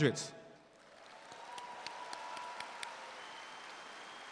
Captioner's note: audience applauds